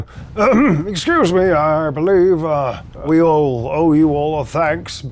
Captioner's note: clears throat